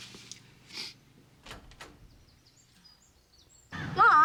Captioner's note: door opens